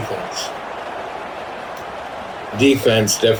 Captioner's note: crowd Noises